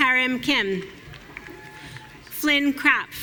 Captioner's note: audience cheering